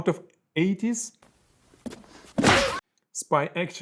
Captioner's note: fist punching